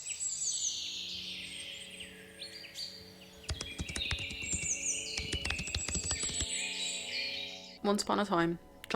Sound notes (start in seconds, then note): 0.0 birdsong; 3.4 sound of fingers typing